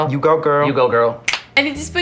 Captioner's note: finger snap